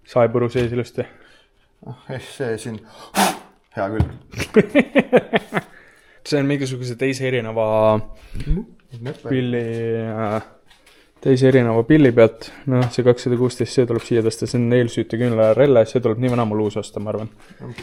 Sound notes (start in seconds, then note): 3.1 blows